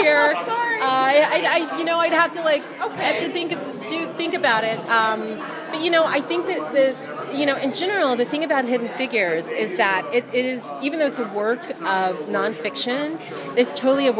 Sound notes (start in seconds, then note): 0.0 laughs